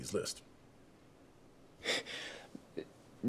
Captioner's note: chuckles